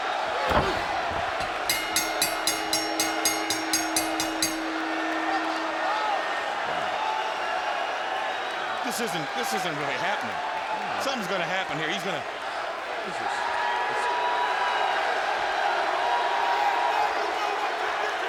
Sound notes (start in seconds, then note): 14.0 audience cheers